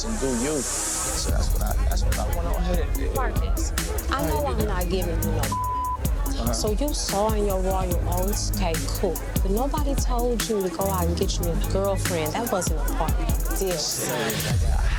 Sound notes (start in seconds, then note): 2.9 beeps